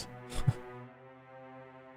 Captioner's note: laughs